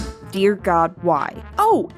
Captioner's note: thump